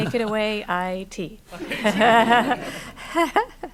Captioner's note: laughter